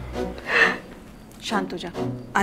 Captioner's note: Shreya sobs